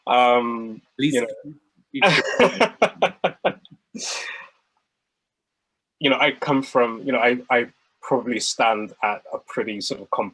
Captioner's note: laughs